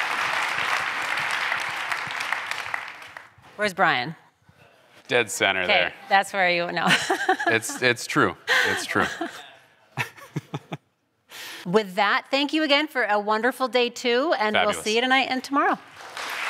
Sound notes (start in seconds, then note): 6.8 laughter; 9.9 laughter